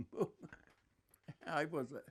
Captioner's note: laughing